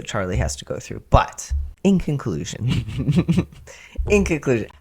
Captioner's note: laugh